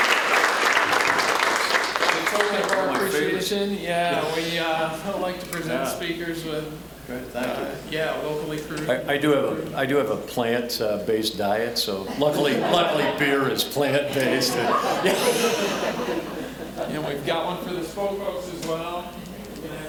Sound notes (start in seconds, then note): 0.0 applause; 14.5 all laughing